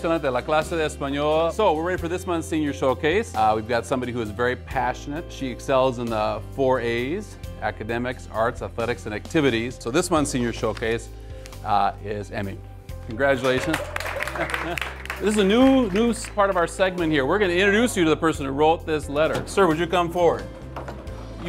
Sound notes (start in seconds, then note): 0.1 Spanish; 13.4 clapping; 13.5 cheering